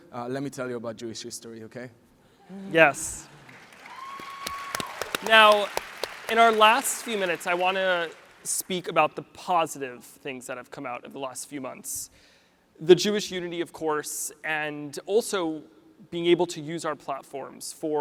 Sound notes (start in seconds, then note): 2.8 audience applauds